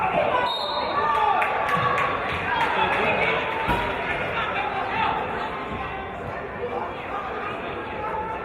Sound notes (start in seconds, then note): 0.3 referee's whistle